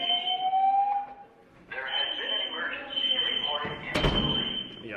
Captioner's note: alarm blares